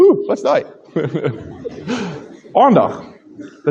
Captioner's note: laughter